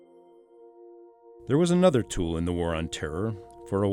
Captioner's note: voiceover